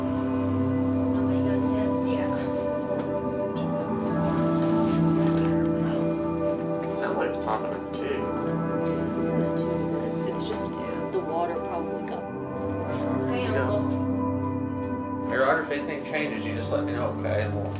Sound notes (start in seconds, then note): 1.1 EMT chatter